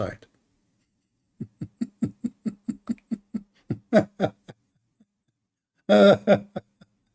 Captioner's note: Ketawa